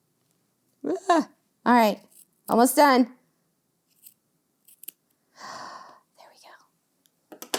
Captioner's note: whispers